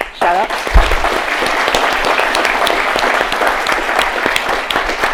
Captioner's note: attendees applauding